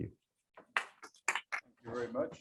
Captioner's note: applause